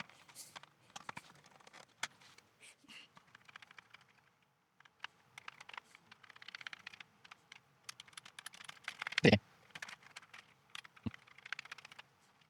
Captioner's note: typing